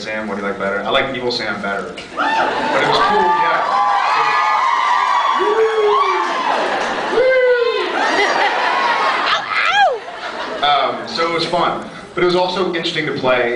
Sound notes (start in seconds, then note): 2.0 cheers; 7.1 cheers; 8.2 laughs, cheers